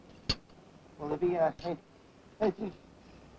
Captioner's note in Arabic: الصوت المنطوق باللغة الإسبانية